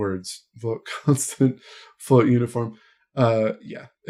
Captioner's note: laughs